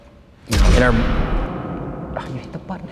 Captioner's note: explosion